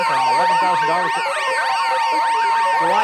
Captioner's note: sirens wailing